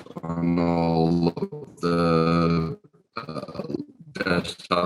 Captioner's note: speaking faintly